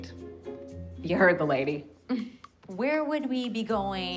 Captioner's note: scoffs